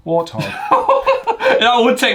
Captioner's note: laughs